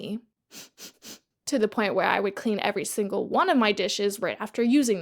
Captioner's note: sniffles